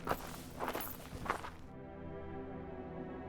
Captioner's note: none